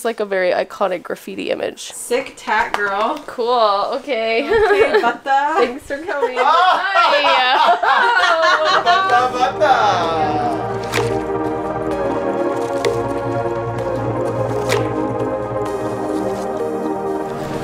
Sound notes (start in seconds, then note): 5.9 group laughing; 11.0 playful music